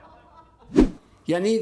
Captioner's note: laughter